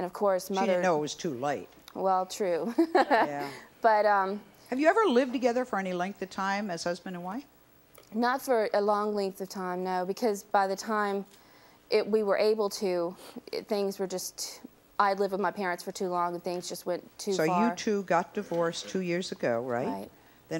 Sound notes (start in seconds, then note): 2.7 laughs